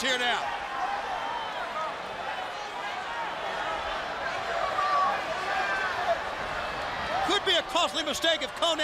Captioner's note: crowd chatter